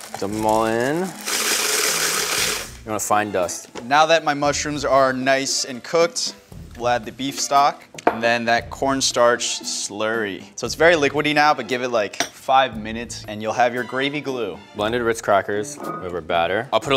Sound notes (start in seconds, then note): 0.0 crackers clinking against plastic; 2.0 crackers grinding